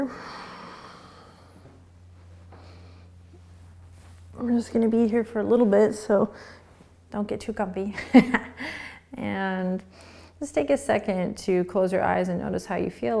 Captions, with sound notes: (breathing) We're just gonna be here for a little bit so don't get too comfy. (laughing) And, just take a second to close your eyes and notice how you feel.